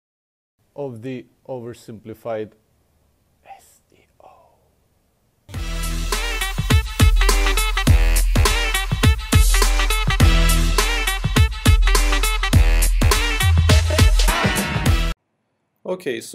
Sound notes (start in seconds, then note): 3.2 whispers; 5.5 intro Music